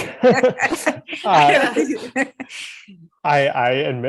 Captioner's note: group laughing